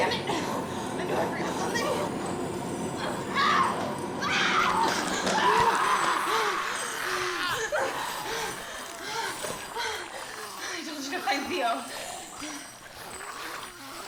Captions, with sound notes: Dammit, I knew forgot something. (Betty screaming) - I told you to find Theo.